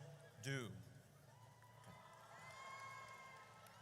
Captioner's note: audience cheers